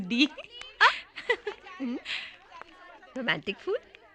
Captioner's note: chuckling